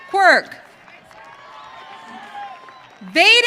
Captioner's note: audience cheering